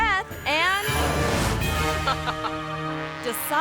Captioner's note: suspenseful music; friend laughs